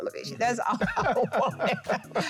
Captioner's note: Jackie and Wale laughing